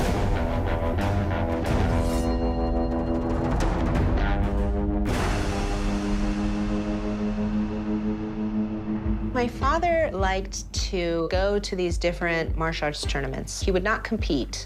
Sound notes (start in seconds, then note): 1.5 sword rings